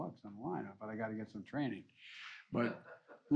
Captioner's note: laughter